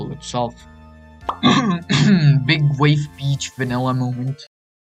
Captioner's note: cough